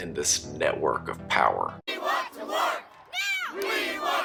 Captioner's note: yelling